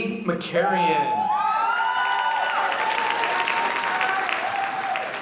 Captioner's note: audience applauding